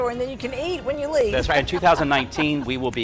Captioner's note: laughs